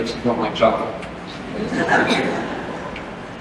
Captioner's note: laughter